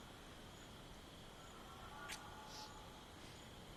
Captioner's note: train whistle continues